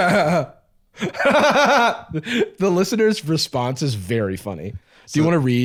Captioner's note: laughs